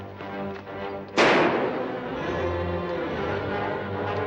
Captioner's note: gunshots